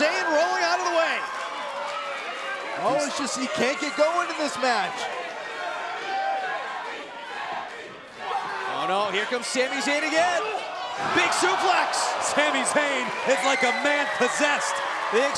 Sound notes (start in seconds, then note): 5.2 crowd cheering